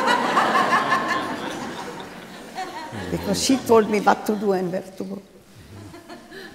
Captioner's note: laughter